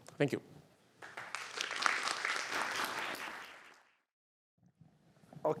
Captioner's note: applause